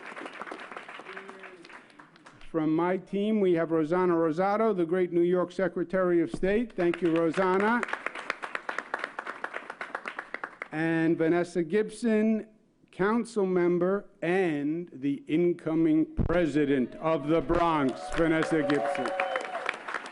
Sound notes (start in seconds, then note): 6.8 applause